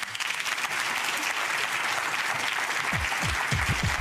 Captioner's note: audience clapping